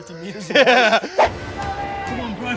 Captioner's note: laughing; dramatic music